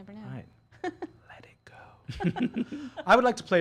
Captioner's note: laughing